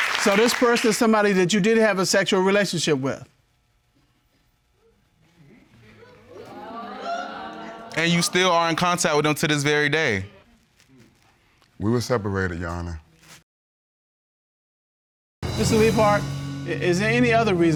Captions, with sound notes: So this person is somebody that you did have a sexual relationship with? [audience exclaims] And you still are in contact with him to this very day. We were separated, Your Honor. Mr. Leaphart, is there any other reason